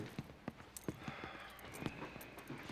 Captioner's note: sighs